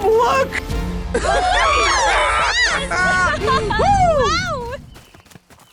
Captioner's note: Red Team cheering